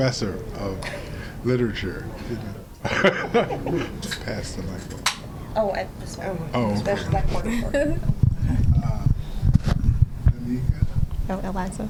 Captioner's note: laughter